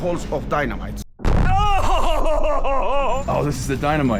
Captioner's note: dynamite explodes